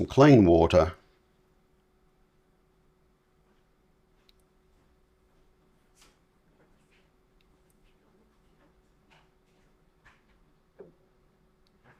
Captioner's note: silence